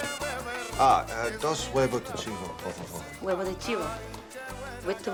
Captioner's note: speaking spanish